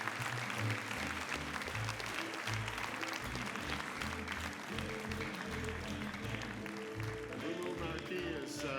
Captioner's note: applause